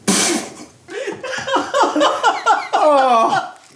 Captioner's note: chuckling